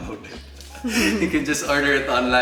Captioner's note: chuckles